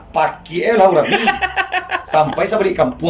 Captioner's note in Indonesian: tertawa